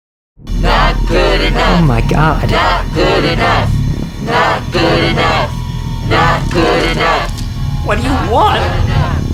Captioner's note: chanting